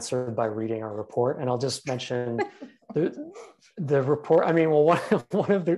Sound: laughs

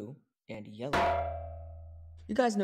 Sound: clang

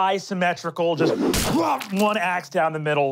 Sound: smacking; growling

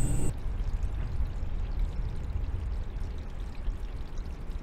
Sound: running water

